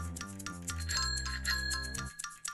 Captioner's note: bike bell rings; light playful music